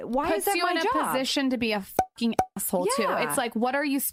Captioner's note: pops